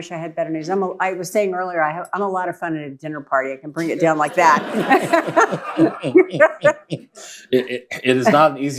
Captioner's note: laughter